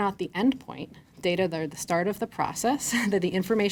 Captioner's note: chuckles